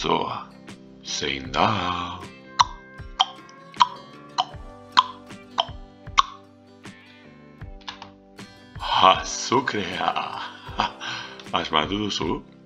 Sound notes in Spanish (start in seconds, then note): 2.4 tic tac tic tac tic tac